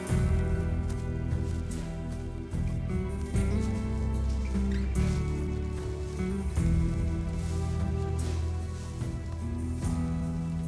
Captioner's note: footsteps